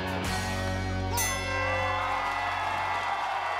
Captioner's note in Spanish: suena la campana; aplausos y exclamaciones